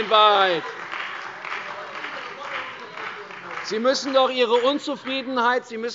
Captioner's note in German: Beifall bei der CDU und dem BÜNDNIS 90/DIE GRÜNEN